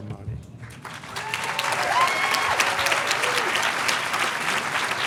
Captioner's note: audience applauding